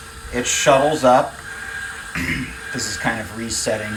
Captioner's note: motion control unit whirring